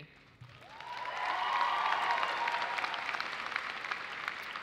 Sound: audience cheers and applauds

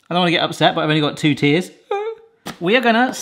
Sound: sobs

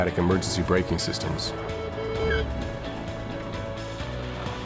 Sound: braking

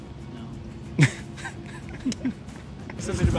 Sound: laughs

